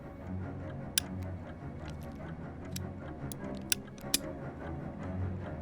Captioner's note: clicking; suspenseful music